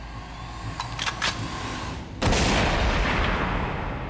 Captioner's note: gun shot